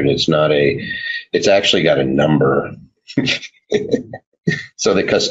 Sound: laughs

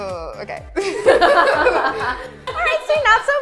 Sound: person behind camera laughs

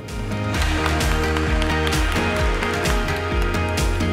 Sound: audience clapping; upbeat music

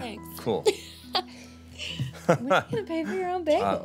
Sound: laugh

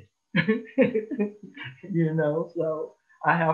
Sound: chuckles

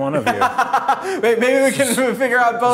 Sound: person laughing

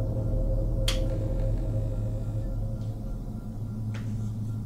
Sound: clicking

